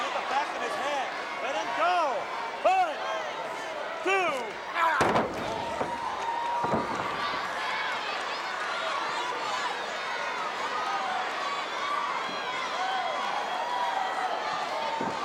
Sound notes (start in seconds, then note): 5.2 audience chattering; 10.1 audience cheering